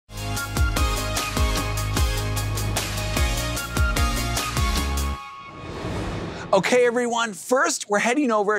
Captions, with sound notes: (upbeat music) (transition whooshes) Okay, everyone. First, we're heading over